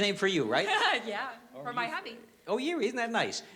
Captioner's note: laughs